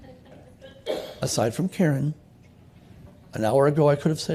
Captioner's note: laughter